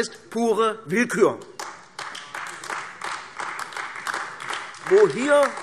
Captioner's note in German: Beifall AfD